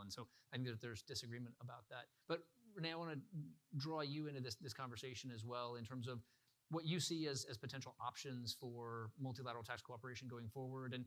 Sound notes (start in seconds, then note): none